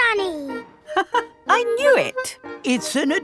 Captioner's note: laughs